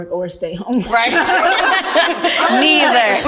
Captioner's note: women laughing